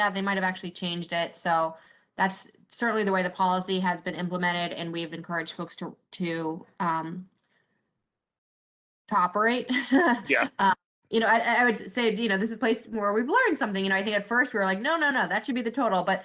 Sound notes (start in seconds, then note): 9.7 laughter